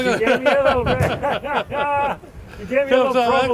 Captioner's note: men laughing